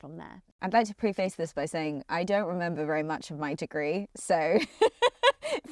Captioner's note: laughs